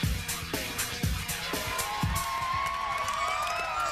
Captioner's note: cheering